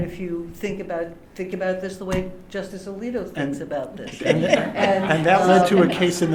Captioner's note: laughter